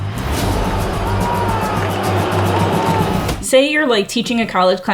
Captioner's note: crowd booing; upbeat music